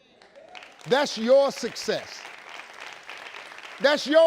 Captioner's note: audience clapping